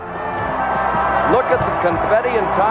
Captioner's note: crowd cheering